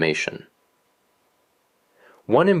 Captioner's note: pause